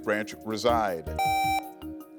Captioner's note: buzzer beeps